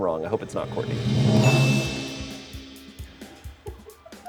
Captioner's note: bell dings